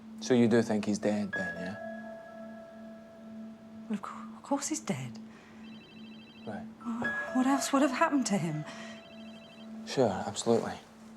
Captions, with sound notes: So you do think he's dead, then, yeah? Well, of course he's dead. (phone rings) Right. What else would've happened to him? (phone rings) Sure, absolutely.